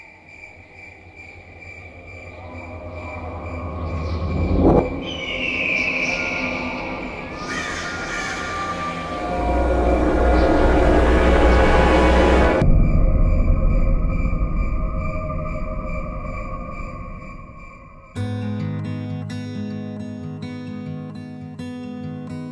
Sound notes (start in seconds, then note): 0.3 grillos cantando; 7.1 cuervo graznando; 9.1 suspenso; 12.4 grillos cantando